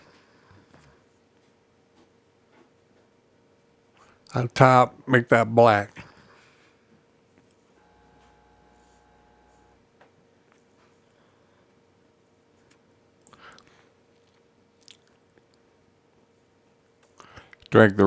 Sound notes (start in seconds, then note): 0.3 silence; 6.1 silence